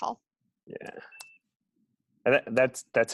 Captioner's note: 1 second pause